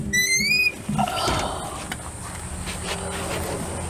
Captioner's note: door opening